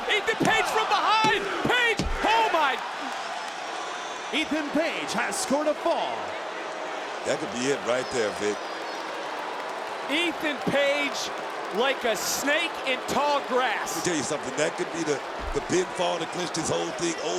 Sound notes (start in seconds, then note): 3.4 crowd roars; 6.6 crowd boos